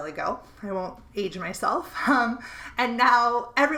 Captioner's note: chuckling